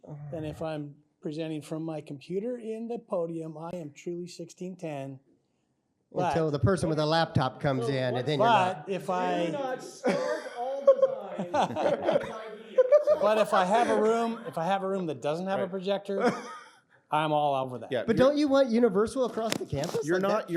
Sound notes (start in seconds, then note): 12.4 laughter